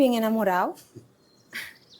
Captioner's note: Ender laughs